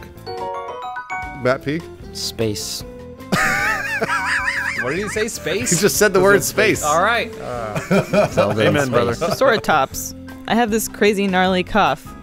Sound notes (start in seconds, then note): 3.3 wheeze laugh